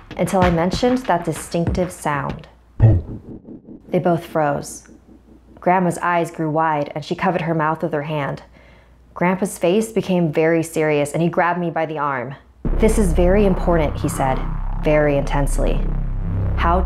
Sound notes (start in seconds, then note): 2.8 thump